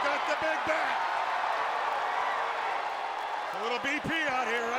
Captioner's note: audience cheering